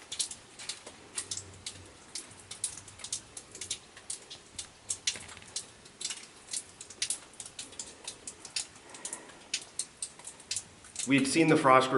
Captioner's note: dripping Water Sounds